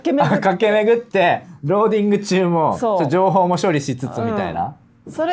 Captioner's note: laughs